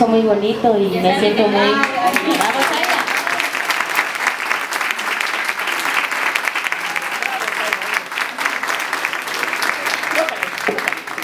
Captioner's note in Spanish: aplausos